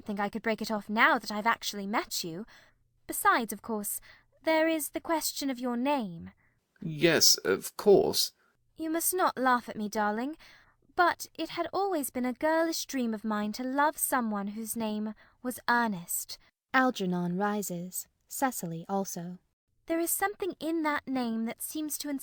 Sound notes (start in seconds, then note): 8.4 nervously